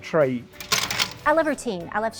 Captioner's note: stapling